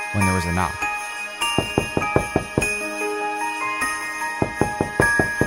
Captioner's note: knocking on door